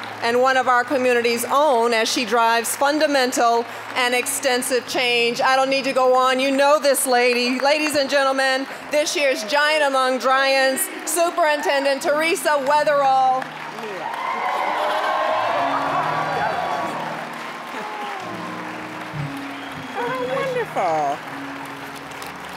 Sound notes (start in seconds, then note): 14.6 cheering, applause; 21.6 applause